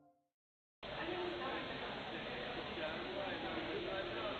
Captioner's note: hum of conversation